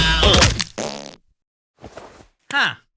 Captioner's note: thud; fart